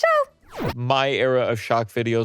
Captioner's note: star whooshing